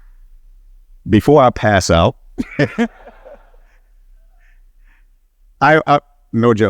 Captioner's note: laughing